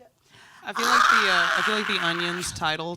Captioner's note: screams